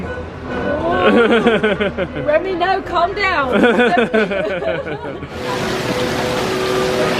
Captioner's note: laughs